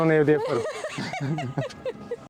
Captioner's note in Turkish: kahkaha